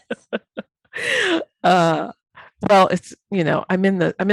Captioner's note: laughing